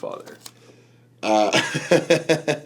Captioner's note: laughs